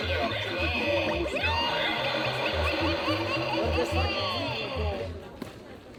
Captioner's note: scary laughter